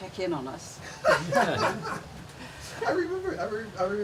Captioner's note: laughs